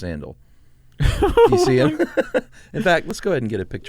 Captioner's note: both laugh